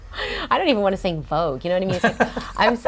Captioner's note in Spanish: Laughs